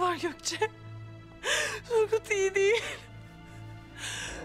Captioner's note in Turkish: Ağlama sesi